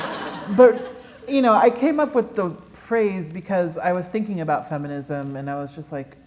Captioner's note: laughter